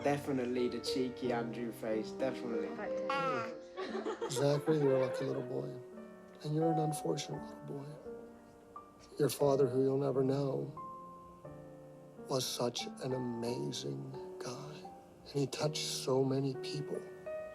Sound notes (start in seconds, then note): 3.7 laughter